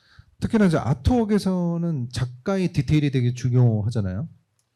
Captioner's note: speaking korean